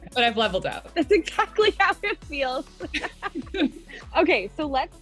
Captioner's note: laughs